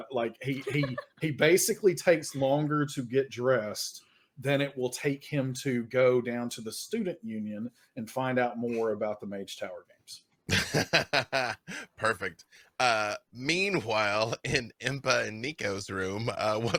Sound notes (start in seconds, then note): 10.5 laughing